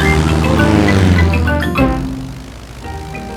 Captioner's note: plane engine revving